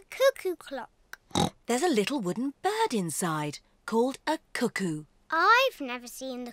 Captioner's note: oinks